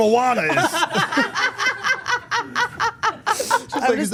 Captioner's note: everyone laughing